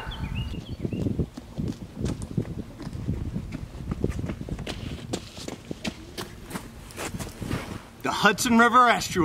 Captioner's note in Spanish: running footsteps